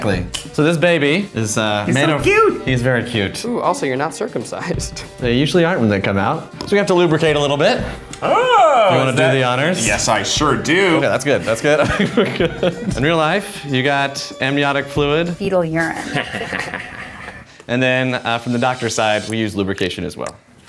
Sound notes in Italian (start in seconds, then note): 11.5 risate; 15.8 ridono